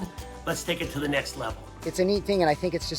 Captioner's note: none